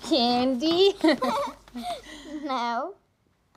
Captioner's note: both laughing